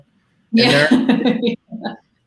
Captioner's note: laughs